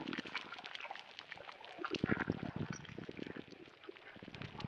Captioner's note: fluid sounds intensify